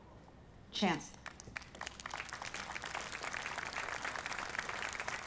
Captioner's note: audience applauding